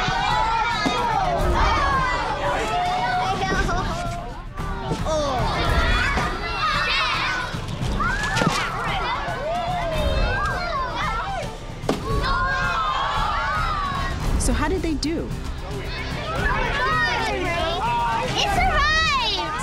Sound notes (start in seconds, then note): 0.3 kids reacting; 8.0 clunk!; 11.8 thud!